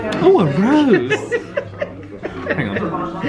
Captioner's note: laughs